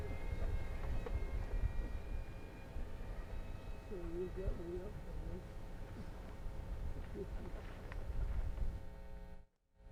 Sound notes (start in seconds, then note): 4.1 people chattering indistinctly